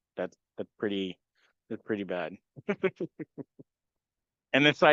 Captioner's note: laugh